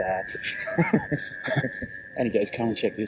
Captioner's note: laughing